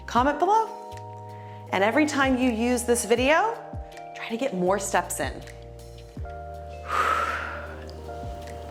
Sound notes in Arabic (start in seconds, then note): 6.8 زفير